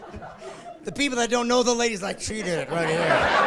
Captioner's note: laughing